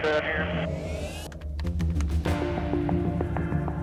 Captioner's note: keys typing; ominous music